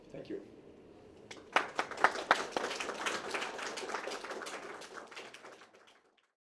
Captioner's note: applause